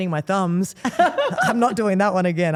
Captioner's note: Steph laughs